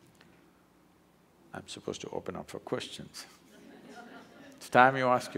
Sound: laughter

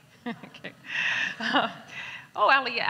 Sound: laughs

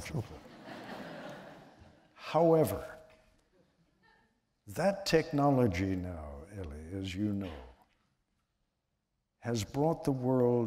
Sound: laughter

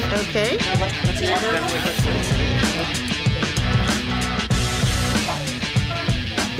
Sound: loud chatter

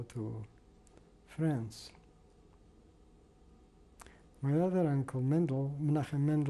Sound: pauses for 3 seconds

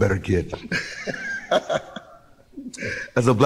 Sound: laughs

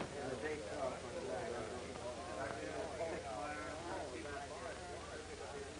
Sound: hospital staff chatters

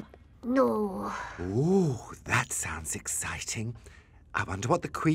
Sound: sighs

